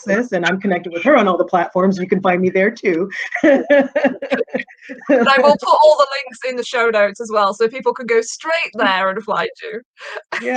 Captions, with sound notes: and I'm connected with her on all the platforms. You can find me there too (laughing). - And I will put all the links in the show notes as well. So people can go straight there and find you (chuckling).